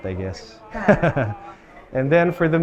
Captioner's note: laughs